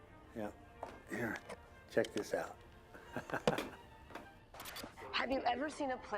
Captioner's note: laughs